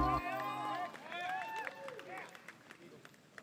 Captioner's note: crowd cheering